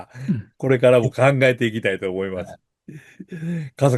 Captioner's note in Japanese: 咳払い